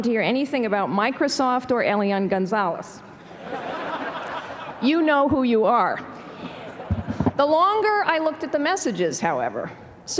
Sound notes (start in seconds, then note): 3.2 laughter